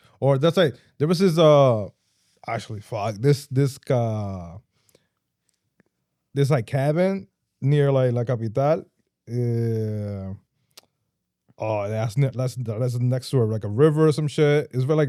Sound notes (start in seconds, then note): 8.7 speaking In Foreign Language